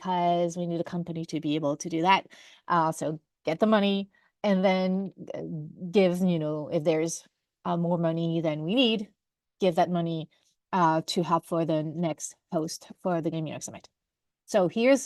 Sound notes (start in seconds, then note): none